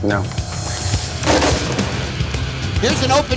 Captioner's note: bag thuds